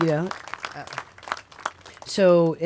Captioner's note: applause